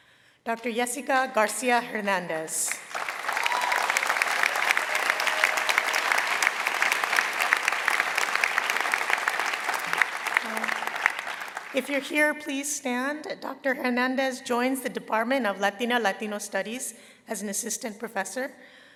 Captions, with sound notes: Dr. Yessica Garcia Hernandez -- [ Applause ] -- if you're here, please stand. Dr. Hernandez joins the department of Latina/Latino studies as an assistant professor.